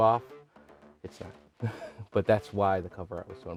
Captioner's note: laughs